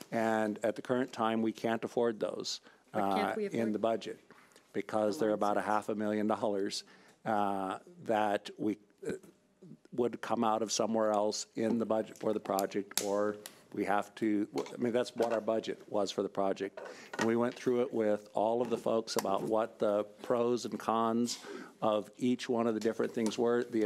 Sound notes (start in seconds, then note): none